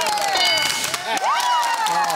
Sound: cheering

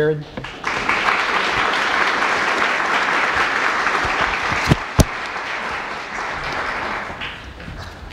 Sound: applause

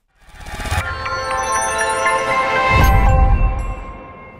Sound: bell jingle

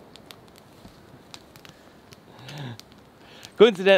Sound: crackling flames

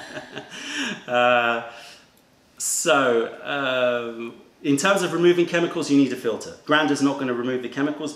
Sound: laughter

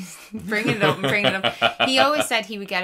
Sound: laughing

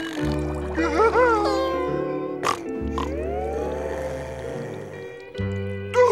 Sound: laughing; snoring

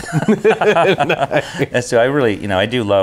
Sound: both laughing

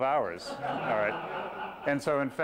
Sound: laughter

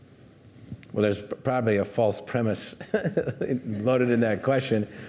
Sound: chuckling

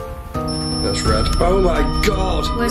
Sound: high pitched tone

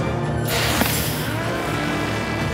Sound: drone buzzing; whooshing

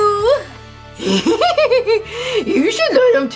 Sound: Scooby laughs

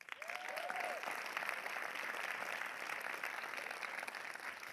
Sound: audience applause

